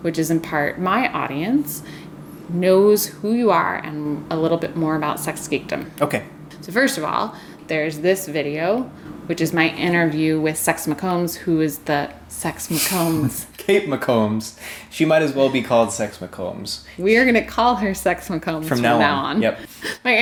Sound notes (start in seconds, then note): 12.8 both laugh